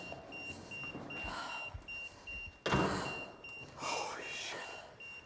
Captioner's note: Isabel gasping